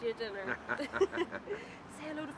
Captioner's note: both laughing